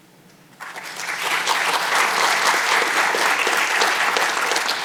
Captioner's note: audience clapping